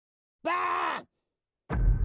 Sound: scream

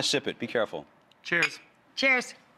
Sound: glasses clink

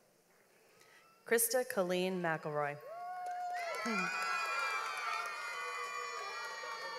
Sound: audience applauds

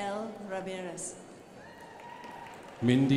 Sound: crowd applauding

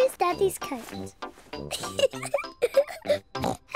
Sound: giggles; oinks

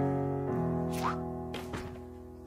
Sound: shoe throwing noise

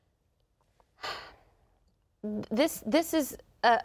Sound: sighs

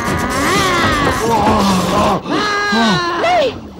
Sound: groans

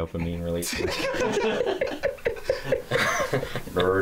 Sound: laughter

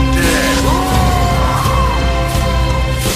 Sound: screams in pain

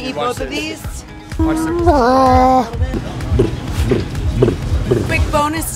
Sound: humming

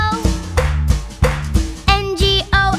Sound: clap

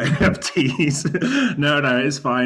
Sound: laughs

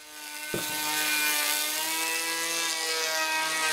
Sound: whirring of the planer

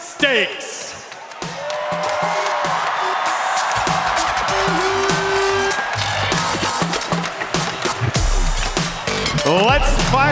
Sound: crowd cheering

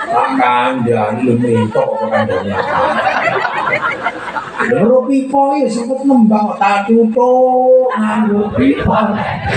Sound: laughs

